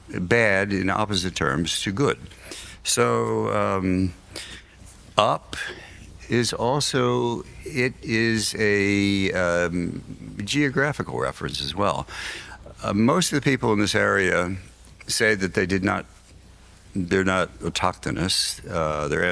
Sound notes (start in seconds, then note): none